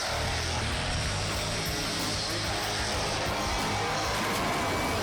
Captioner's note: engine revving